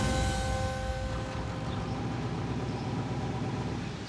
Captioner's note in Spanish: ruido de los vehículos